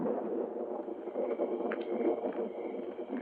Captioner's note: crickets chirping